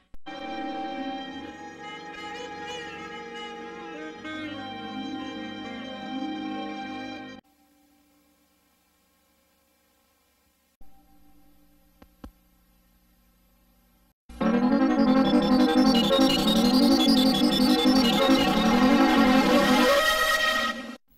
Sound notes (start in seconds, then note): 7.6 silence; 14.3 eerie synthesizer music plays